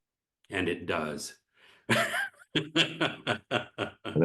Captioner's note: laughs